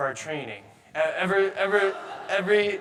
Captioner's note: audience laughing